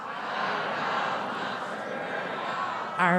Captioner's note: applause